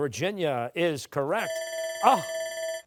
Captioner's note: buzzer